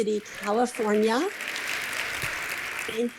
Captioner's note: applause